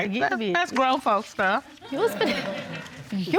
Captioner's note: audience laughing